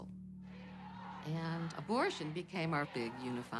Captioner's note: shouting, chanting